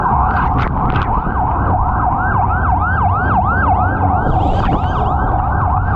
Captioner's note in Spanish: Sirenas